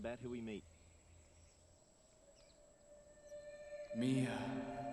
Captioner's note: birds chirping